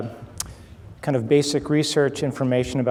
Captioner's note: clicks tongue